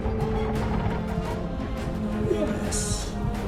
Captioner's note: Jarova speaking in foreign language; ship chirps